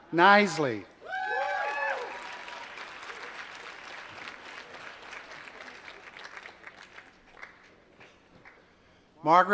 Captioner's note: applause